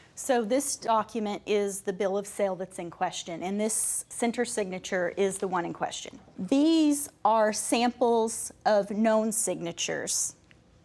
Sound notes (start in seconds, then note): none